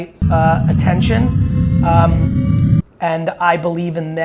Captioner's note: intense sci-fi sound effect